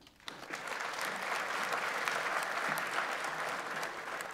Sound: audience applauds

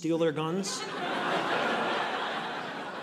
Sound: audience laughing

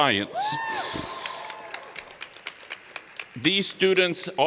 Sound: cheers and Applause

